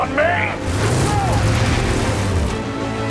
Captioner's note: vehicle roaring; intense dramatic music